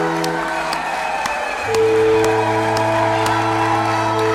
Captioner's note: crowd cheering